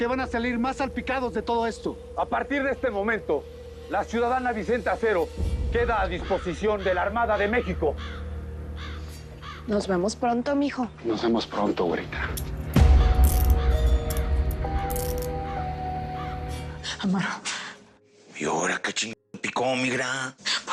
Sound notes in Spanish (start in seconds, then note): 13.0 Sonido al esposarlo